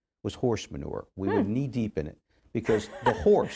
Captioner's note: chuckles